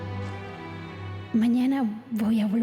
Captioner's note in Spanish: Voz de la joven